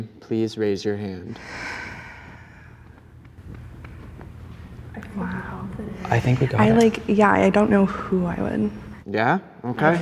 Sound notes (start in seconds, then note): 1.3 sighs